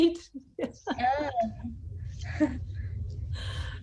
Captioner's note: laughter